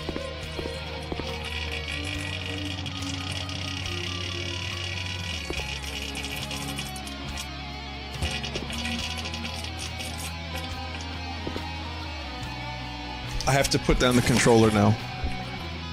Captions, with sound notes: [violent shitting noises] I have to put down the controller now.